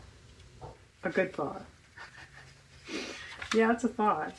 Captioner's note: laughs